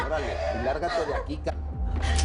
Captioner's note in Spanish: Sollozos